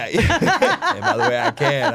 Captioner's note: group laughing